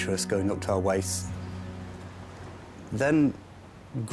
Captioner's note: waves crashing